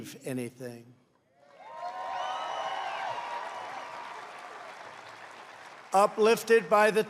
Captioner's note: applause